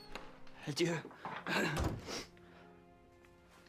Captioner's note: clears throat